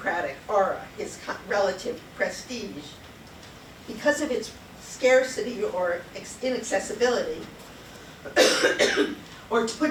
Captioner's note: coughs